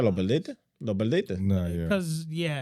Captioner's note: speaking In Foreign Language